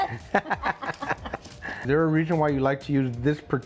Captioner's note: both laughing